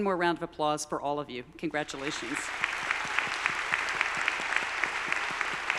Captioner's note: all applauding